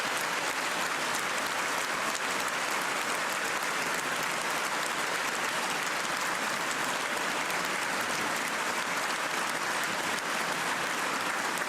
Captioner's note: cheers and applause